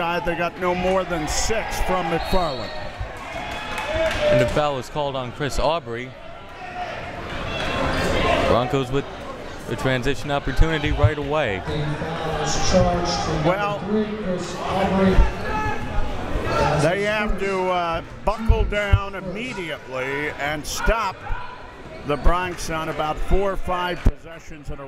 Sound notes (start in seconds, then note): 2.8 whistle tweeting; 6.2 crowd members shouting